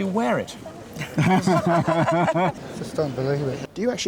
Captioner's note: laughter